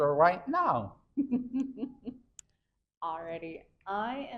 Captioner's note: chuckles